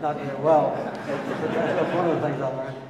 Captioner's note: audience laughing